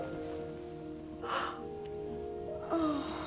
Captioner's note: gasping